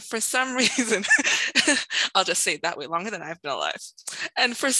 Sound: laughs

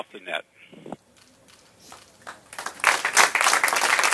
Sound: people applaud

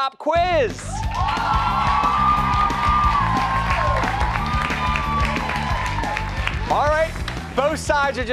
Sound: cheers and applause

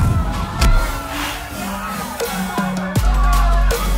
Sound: club crowd yelling

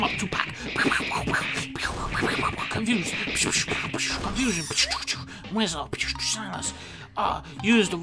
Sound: dunkey does punch noises

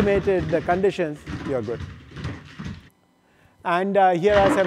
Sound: feet clatter

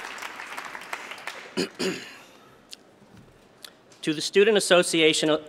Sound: cough

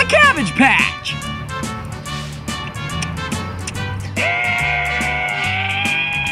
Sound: making baby noises

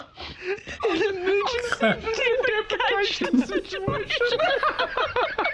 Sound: collective snickering; newswoman, cracking up; laughter

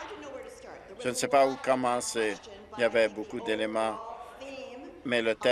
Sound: applause

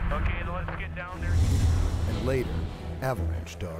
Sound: voiceover

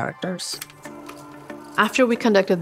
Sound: machine clicking

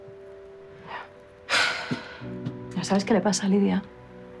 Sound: sighs

